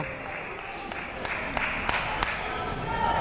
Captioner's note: clapping